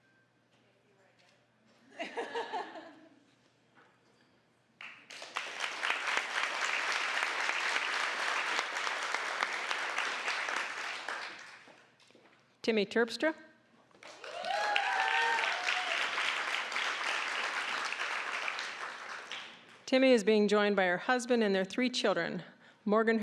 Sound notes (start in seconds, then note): 2.0 audience laughing; 4.8 applause; 14.0 applause, cheering